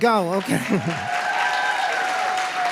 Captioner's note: applause